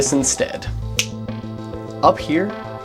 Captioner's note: snap